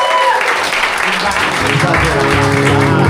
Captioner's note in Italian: applauso